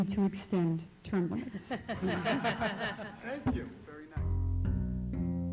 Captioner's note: laughter